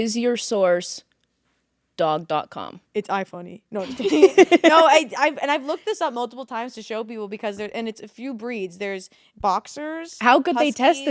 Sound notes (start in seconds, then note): 3.8 both laughing